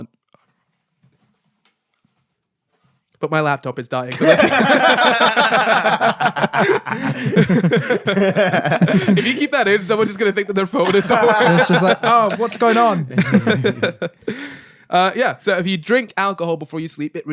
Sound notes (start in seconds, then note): 4.1 laughing